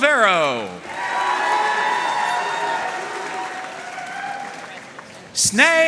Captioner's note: audience cheering and applauding